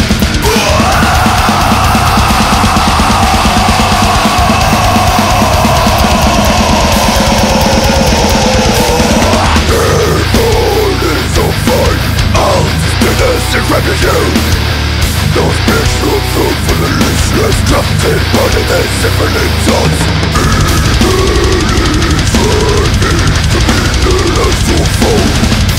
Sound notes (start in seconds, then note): 5.1 cri interminable